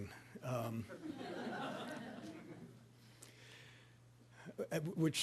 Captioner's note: audience laughing